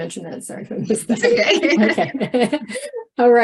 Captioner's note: laughs